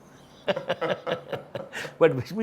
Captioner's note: giggles